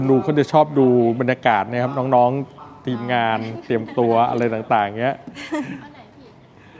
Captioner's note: laughter